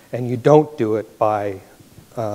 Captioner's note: none